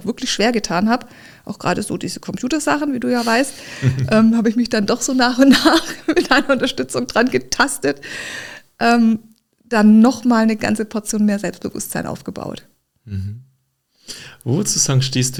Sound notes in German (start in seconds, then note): 3.7 gelächter; 8.0 japst; 13.1 schnauben